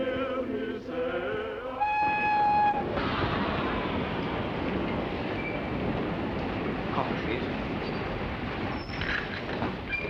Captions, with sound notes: (train whistling) - Coffee, please.